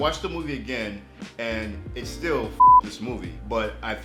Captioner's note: beep